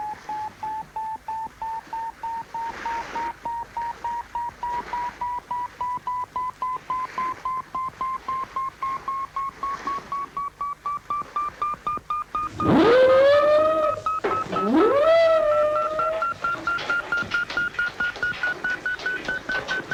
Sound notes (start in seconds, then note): 12.6 horn blowing; 15.6 radar beeping increasingly rapidly